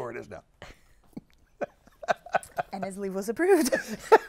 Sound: laughs

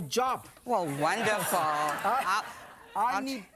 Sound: crowd; laughter

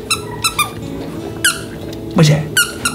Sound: toy squeaks

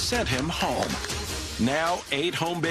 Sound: clapping

